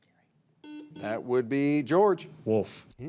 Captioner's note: signal beeps